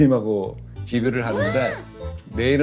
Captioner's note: gasping